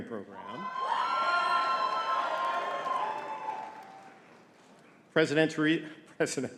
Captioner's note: audience cheering and clapping